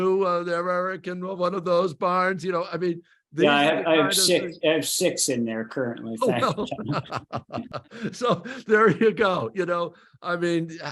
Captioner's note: laughs